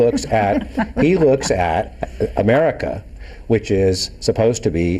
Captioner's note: everyone laughing